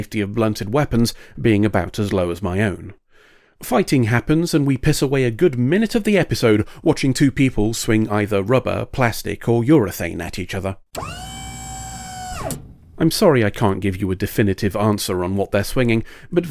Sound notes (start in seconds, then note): 10.9 hydraulic whine